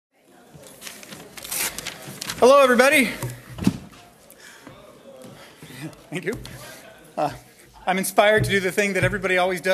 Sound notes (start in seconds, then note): 4.1 voiceover